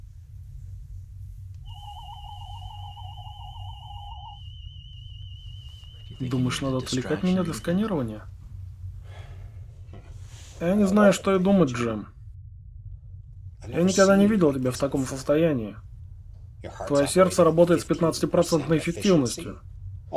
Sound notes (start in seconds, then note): 1.4 medical scanner hums